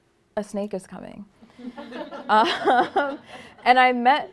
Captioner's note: laughter